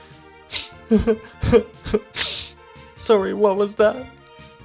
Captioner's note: sniff